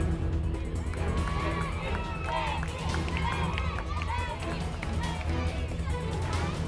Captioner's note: stirring music playing; audience chanting, clapping